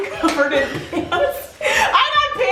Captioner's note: both laughing